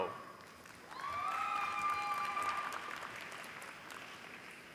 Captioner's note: applause